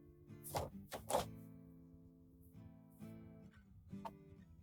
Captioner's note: paper rustling